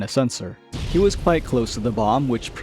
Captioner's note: boom